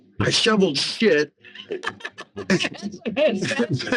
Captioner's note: laughing